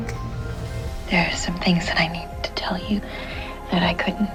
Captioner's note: voiceover